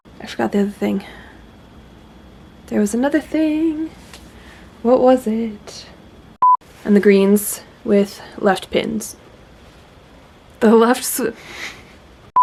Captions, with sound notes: I forgot the other thing. *singsong* There was another thing! What was it? And the greens with left pins. The lefts-- *laughs*